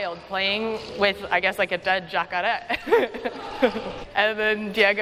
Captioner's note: non-english